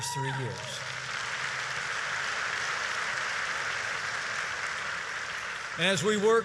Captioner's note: applause